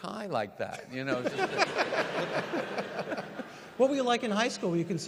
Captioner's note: audience laugh